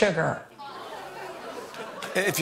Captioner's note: laughter